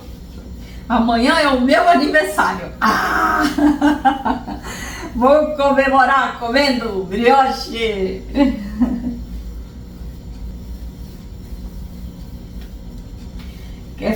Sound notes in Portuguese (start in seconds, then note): 3.3 risos